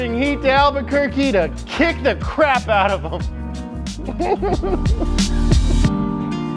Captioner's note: laughs